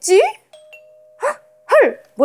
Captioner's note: ding dong~